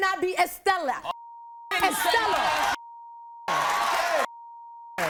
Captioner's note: beep